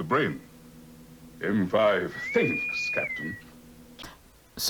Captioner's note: electronic whistling